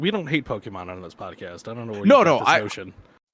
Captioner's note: laughs